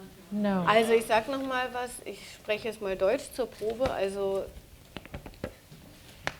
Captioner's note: speaking german